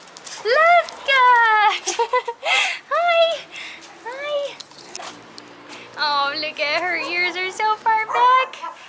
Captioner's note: laughter